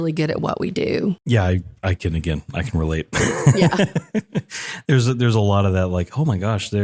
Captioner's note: laugh